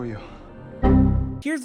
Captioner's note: Windows XP Error Sound